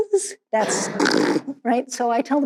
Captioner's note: imitates snoring